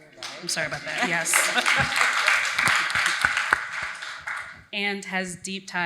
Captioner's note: audience applauds